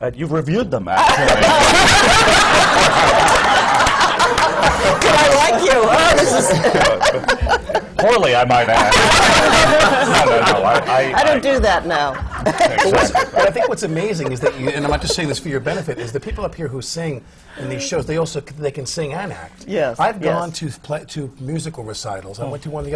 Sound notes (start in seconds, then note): 6.2 laughter; 12.0 laughs; 12.1 laughter